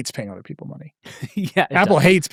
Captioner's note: laughing